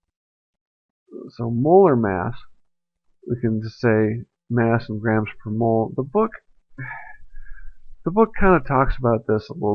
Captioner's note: sigh